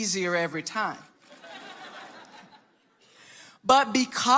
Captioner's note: audience laughing